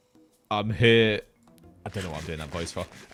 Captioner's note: deep voice